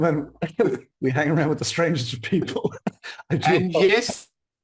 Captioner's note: chuckles